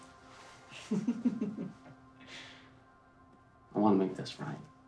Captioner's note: Naomi laughs